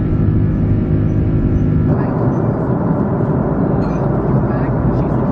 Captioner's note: engine whirring continues